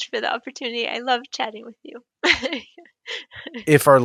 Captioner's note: laughs